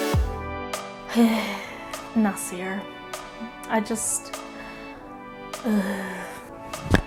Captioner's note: dreamy sigh; more sighing